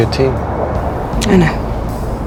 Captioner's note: voiceover